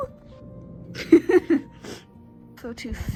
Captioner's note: laughing